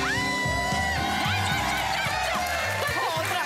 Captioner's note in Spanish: Gritos y exclamaciones